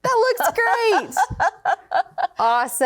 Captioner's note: laughing